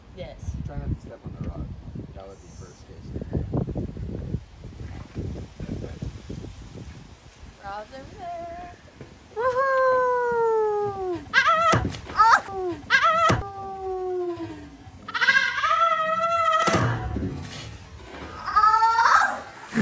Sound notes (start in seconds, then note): 12.5 screams; 14.4 slow motion scream